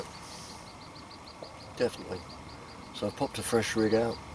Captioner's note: none